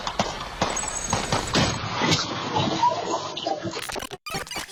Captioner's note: gunshots